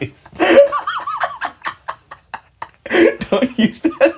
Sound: laughing

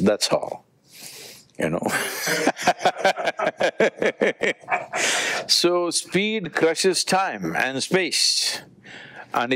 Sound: both laugh

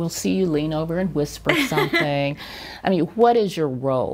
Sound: chuckles

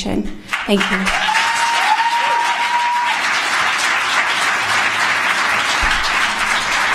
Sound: applause

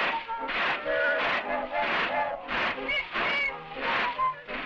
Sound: ship whistle blows

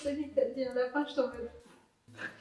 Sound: pff

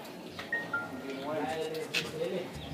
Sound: phone Chime

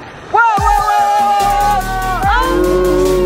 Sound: yelling

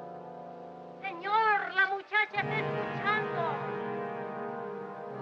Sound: in spanish

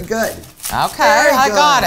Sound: cutting

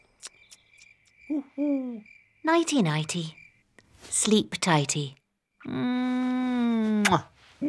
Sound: hoots

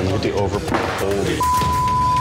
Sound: beep

